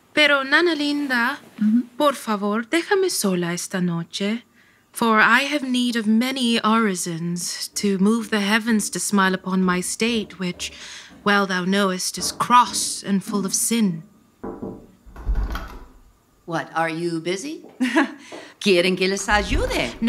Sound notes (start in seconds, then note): 14.4 knocking; 15.0 door opening